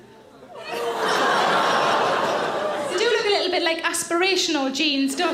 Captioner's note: audience laughs; audience coos